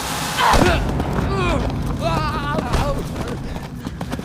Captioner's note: both grunting